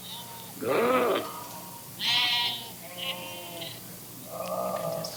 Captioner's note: animal noises